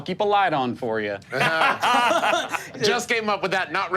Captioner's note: group laughing